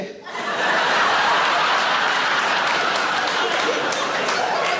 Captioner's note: audience laughing